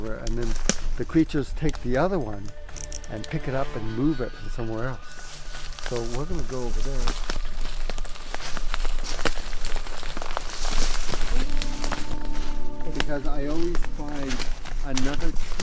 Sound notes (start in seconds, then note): 8.3 twigs snapping